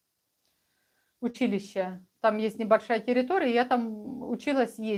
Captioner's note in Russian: none